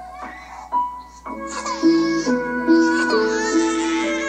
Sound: tender music; baby crying

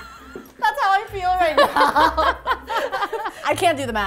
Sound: laughing; laughing continues

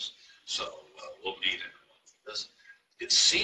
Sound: murmurs

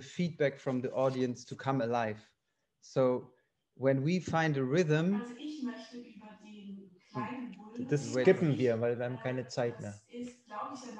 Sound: voice on loudspeaker interrupts them

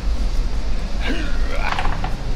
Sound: heaves

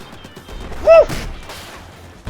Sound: shout

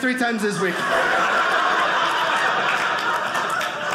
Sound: audience laughing

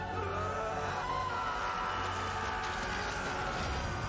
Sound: fantastical music; Uther screaming

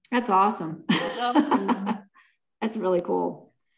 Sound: laughs

